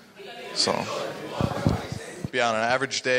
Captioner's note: audience members all chatting at once